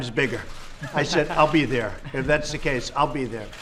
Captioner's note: laughter